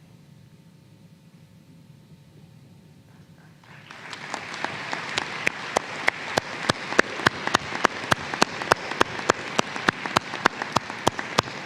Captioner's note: applause